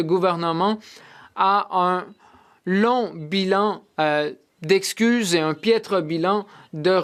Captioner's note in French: voix de l'interprète